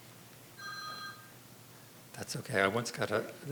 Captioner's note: phone rings